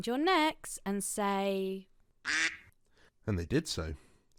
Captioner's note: quack sfx